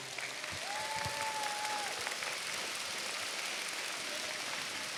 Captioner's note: cheers, applause